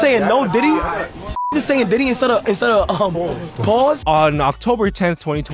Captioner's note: beep